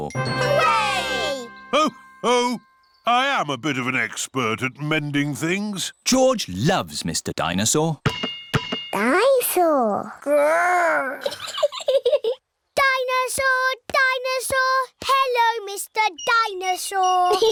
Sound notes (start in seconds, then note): 11.2 giggles